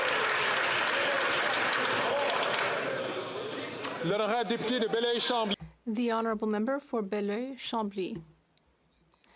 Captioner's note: some Applause